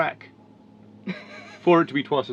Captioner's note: laughs